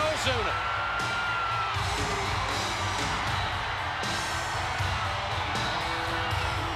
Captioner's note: spectators cheering; upbeat music